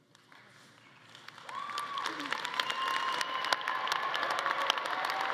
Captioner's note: attendees applauding and cheering